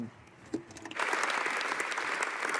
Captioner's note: speaking French